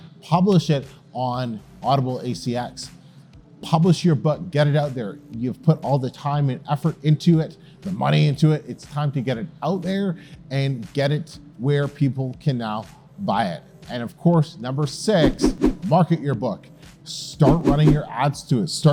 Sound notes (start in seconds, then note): 14.9 text whooshing